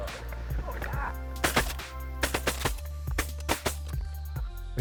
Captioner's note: gun shots